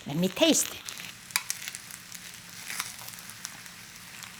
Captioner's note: food sizzling